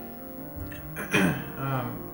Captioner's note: clears Throat